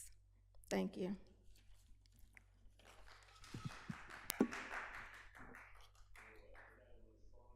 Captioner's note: applause